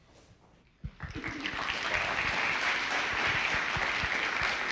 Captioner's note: applause